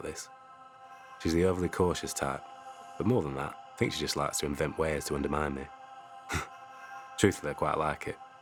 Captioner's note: Tariq chuckles